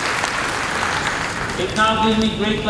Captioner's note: applause